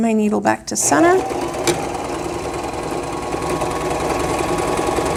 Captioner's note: sewing machine whirring